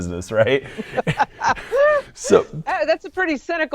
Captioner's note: laughs